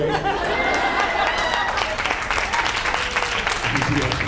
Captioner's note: laughs; applauds